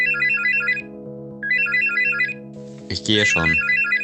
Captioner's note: phone rings